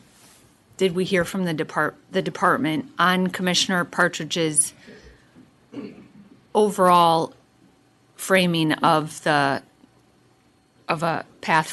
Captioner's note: clears throat